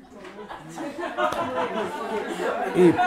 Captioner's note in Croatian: smijeh u publici